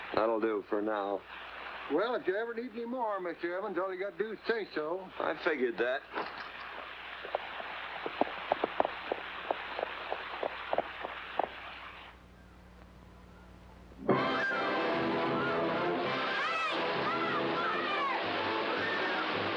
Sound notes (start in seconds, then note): 8.0 hooves trotting; 14.0 water rushing; 14.1 triumphant music